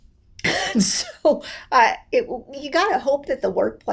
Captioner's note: laughs